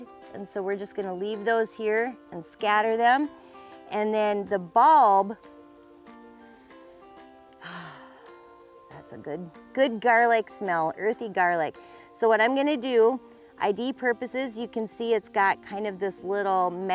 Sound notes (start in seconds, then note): 7.6 exhales